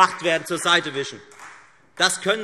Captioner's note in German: Beifall Freie Demokraten